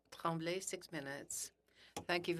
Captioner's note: speaking French